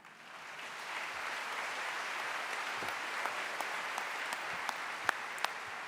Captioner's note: applause